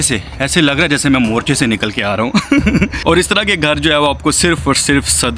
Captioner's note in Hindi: हंसी